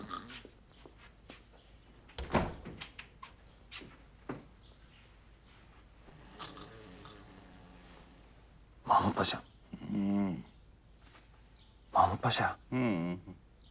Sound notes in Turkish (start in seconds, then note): 2.1 Kapı kapanma sesi